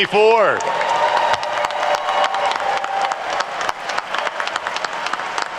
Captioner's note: attendees cheer and applaud